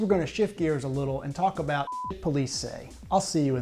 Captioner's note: beep